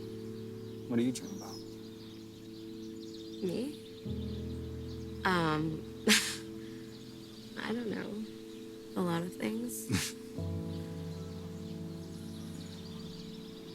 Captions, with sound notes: - What do you dream about? - Me? Um. (laughs) I don't know. A lot of things. (Noah laughs)